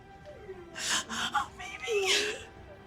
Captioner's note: dog whining